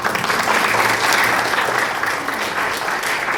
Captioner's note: clapping